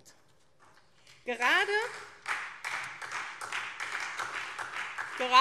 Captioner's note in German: Beifall SPD und vereinzelt Freie Demokraten